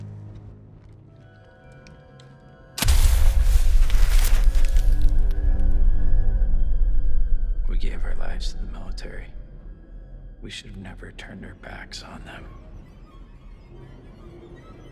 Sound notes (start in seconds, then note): 2.8 flame crackles